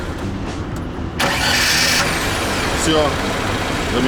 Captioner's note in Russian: машина завелась